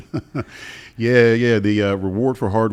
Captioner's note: chuckles